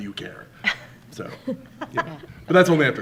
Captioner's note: laughing